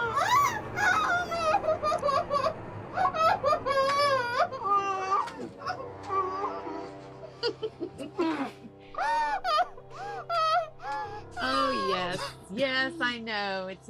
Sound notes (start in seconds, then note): 0.0 Eleanor shrieks; 0.0 Joan crying; 5.3 Eleanor grunting; 7.3 Ramona laughs; 8.9 Joan crying